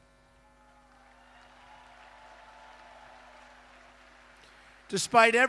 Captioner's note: applause